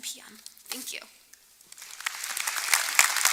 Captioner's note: applause